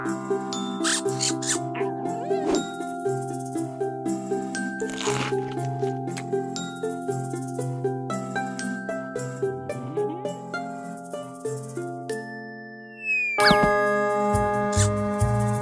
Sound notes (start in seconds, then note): 0.7 bug squeaks; 4.8 Crunch